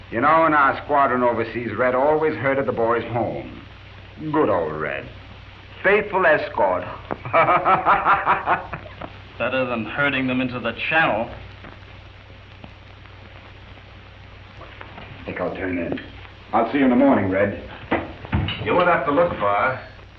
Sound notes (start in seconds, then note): 7.2 laughter